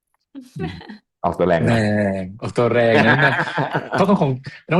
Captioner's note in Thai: เสียงหัวเราะ